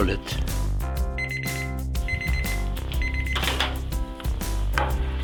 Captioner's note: microwave beeping